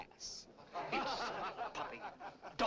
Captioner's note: laughter